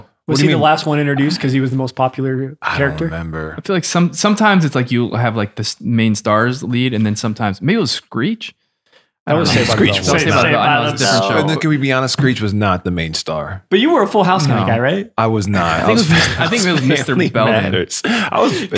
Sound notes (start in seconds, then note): 9.3 talking in unison; 16.9 all talk and laugh